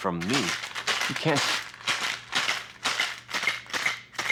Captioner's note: ice clinking